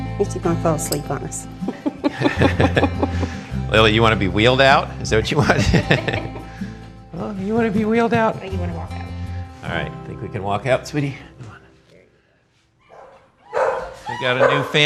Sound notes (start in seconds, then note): 1.6 both laughing